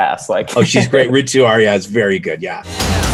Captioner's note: laughing; upbeat music